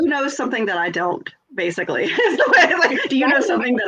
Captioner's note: laughs